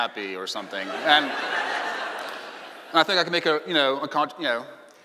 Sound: laughing

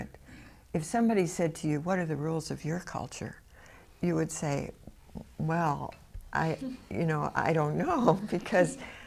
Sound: laughs

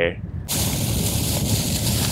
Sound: plastic bag crinkles

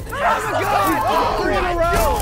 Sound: contestants yelling

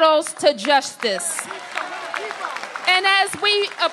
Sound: applause

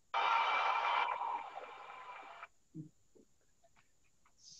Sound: crowd applauds

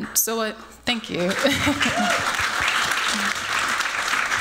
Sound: applause

